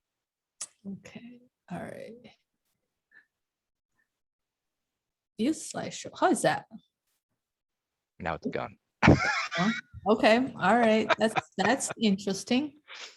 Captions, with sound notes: - Okay, all right. - Here's slideshow, how's that. - Now it's gone.(laughing) - Okay, all right, that's interesting.